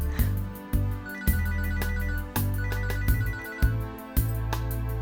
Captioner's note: phone ringing